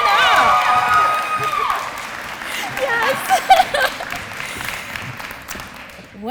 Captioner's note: applause